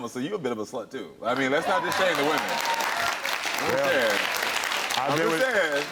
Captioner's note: audience applauds